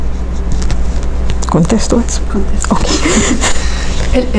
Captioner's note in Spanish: Se ríen